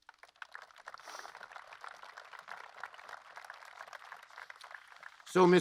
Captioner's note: applause